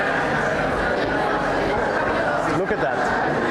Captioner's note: crowd noise